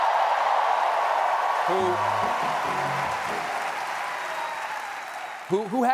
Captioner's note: cheers and applause